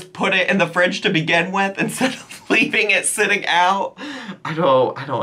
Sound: laughs

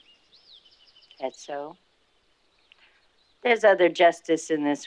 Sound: none

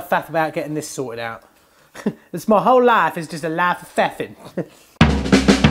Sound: laughs; upbeat music

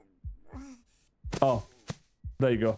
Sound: none

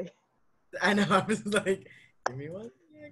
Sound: laughs

